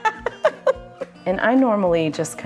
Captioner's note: laughing